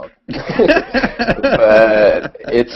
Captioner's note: laughter